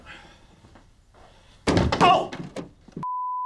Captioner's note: door banging